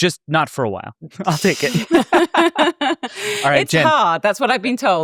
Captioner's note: laugh